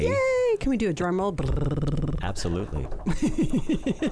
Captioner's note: imitates drum rolling